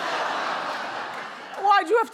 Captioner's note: audience oohing